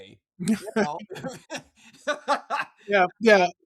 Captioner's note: laughing